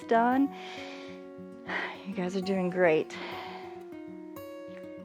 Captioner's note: inhales and exhales